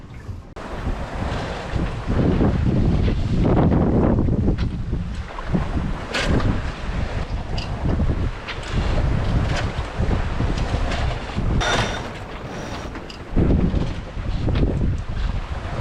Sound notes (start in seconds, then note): 9.1 wind, winches grinding